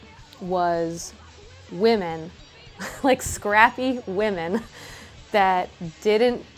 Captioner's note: chuckles